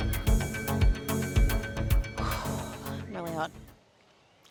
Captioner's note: breathes out heavily